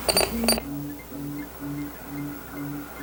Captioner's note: beeping